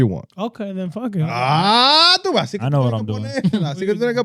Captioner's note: speaking In Foreign Language